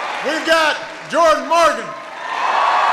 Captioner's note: applause